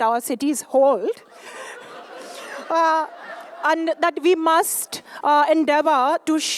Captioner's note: laughter